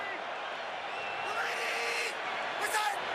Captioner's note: crowd cheering